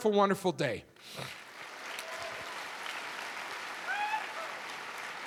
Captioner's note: audience clapping